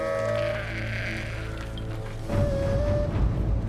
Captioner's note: bleating